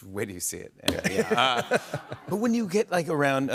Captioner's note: laughter